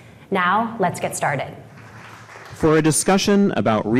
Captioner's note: audience clapping